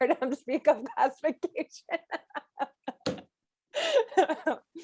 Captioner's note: laughs